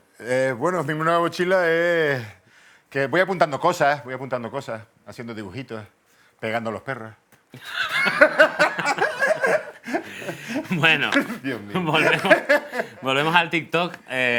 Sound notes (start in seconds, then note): 7.5 laughs